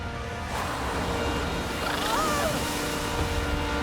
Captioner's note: screaming